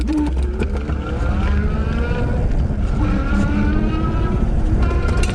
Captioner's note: bike engine roaring